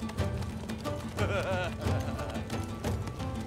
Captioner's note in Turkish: Bamsı gülme sesi